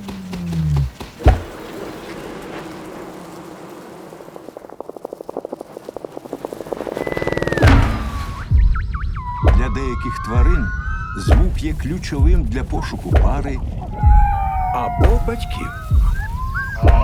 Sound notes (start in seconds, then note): 0.2 low-pitched buzzing; 1.2 buzzing; 3.2 buzzing fades; 4.1 rapid thumping; 7.2 high-pitched melodic calling; 13.7 howling; 16.8 bugling